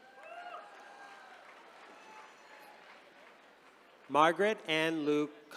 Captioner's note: attendees cheering